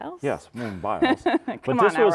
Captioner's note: laughing